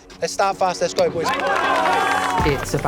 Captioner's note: boys cheer